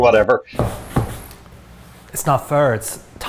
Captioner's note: feet thudding